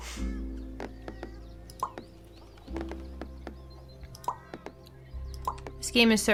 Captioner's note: bubble popping in-game sound effects